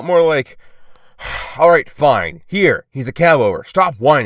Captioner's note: sigh